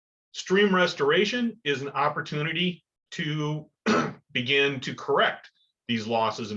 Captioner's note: cough